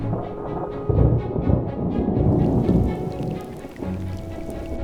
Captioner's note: thunder